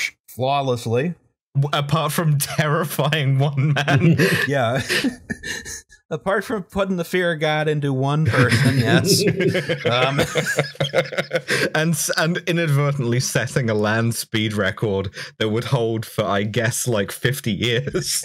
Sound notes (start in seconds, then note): 3.6 laughter; 8.2 laughter